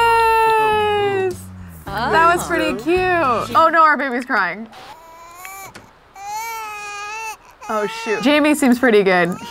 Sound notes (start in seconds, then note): 4.8 baby crying